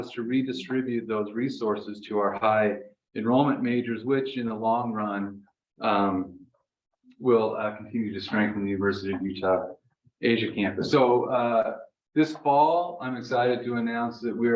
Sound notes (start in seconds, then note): none